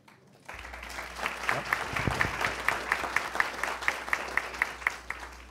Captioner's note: attendees applauding